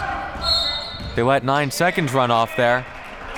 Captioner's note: whistle blowing